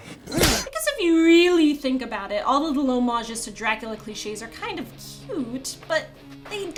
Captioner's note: voiceover